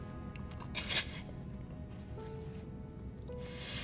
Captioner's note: sobs